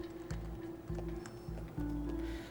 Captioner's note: footstep